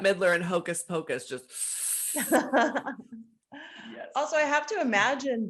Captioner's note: hisses; laughs